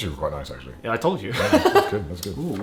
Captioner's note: laughs